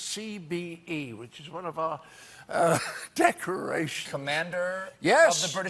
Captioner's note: laughter